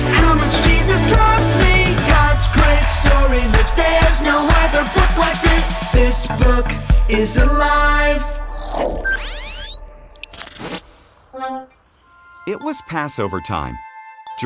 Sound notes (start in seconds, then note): 11.1 electronic Voice